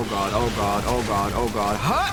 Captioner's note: creature snarling